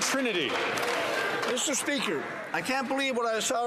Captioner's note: some Applause